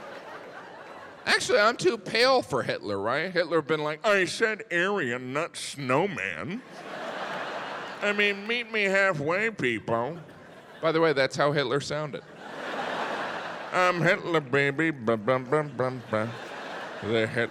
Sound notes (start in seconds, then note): 6.6 audience laughs; 12.1 audience laughs; 14.6 vocalizes; 16.5 audience laughs